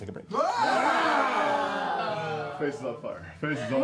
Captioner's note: yelling